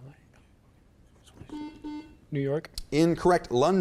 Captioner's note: beep